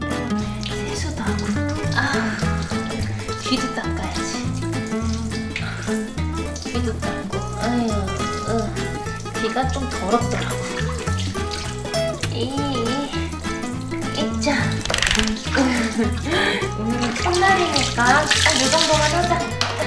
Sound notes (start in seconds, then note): 12.2 effort noises; 15.0 effort noises; 15.4 laugh